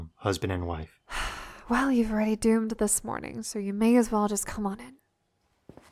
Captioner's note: sighs